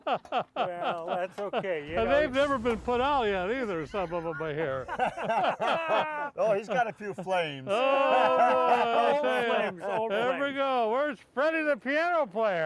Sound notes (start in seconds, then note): 0.1 laughs; 5.6 all laugh; 8.6 all laughing